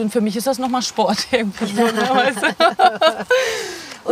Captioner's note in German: lacht